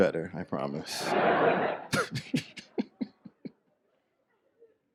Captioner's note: audience laughs